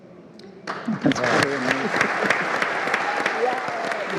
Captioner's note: all applauding